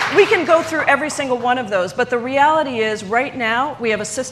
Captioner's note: applause